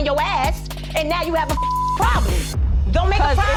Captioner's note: beep